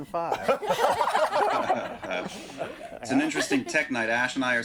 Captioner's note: laughter